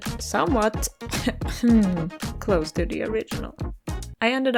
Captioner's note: cough